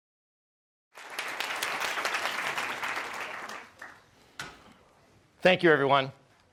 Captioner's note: audience applause